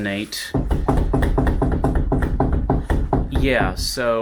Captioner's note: unsettling loose board noises